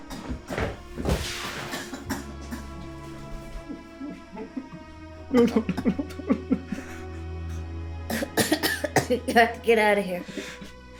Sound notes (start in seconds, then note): 0.1 tense music; 1.6 Carrie coughing; 5.3 Alan crying; 8.0 Carrie coughing